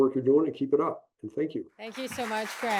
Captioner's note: applause